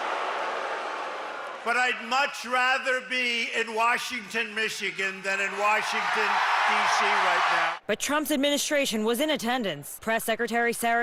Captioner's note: crowd booing